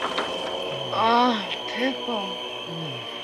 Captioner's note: moans